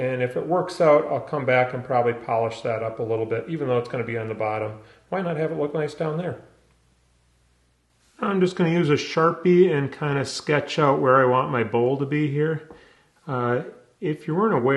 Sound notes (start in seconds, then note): none